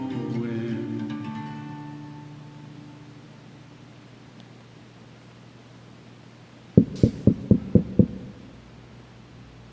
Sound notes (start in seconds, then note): 6.8 knock at door